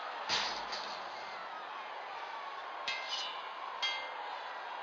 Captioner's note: sounds of arena fighting